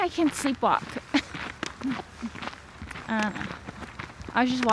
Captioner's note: laughs